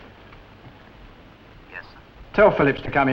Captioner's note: on phone